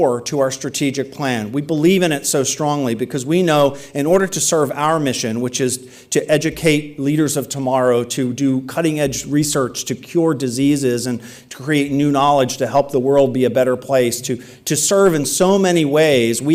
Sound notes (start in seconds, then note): none